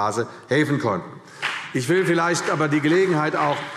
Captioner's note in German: Beifall CDU und BÜNDNIS 90/DIE GRÜNEN